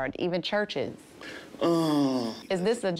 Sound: sighs

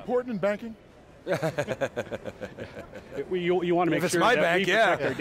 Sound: laughs

